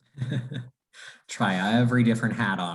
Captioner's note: chuckles